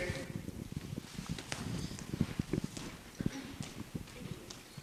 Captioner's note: footsteps clomping